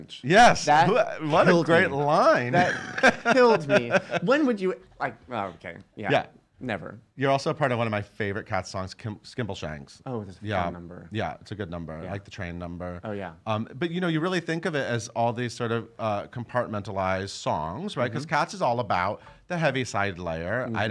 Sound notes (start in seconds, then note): 1.2 laughing